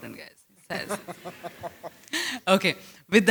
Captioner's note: laughter